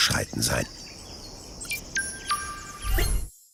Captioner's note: idyllic chirping of birds